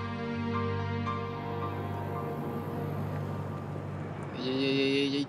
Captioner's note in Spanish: ruido de los vehículos